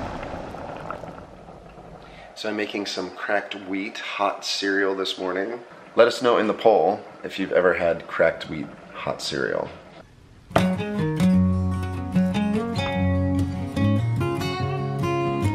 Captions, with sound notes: (cereal boiling) - So I'm making some cracked wheat hot cereal this morning. Let us know in the poll if you've ever had cracked wheat hot cereal. (acoustic guitar)